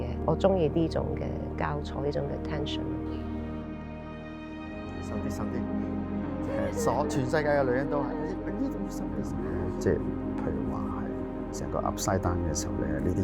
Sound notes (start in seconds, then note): 5.4 Cantonese; 6.4 woman laughing